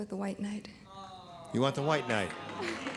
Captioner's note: applause